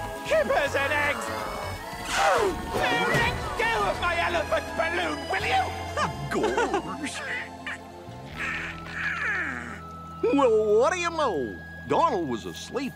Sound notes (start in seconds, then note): 8.2 laughing; 9.1 yawning